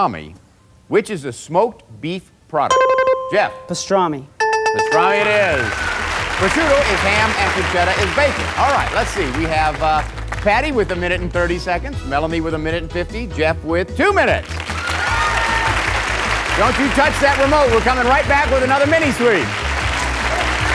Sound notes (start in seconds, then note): 2.7 dinging; 2.7 button chimes; 5.3 applause; 14.4 cheers and applause; 19.4 applause